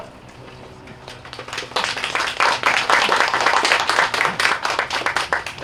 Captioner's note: applause